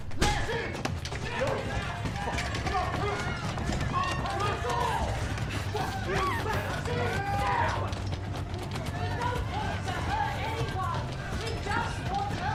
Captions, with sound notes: DO YOU WANT TO DO THAT A BIT LOUDER? [MOB SHOUTING] [MOB SCREAMING AND BAYING] LET US IN! GIVE US THE VACCINES!